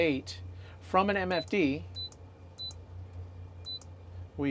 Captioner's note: beep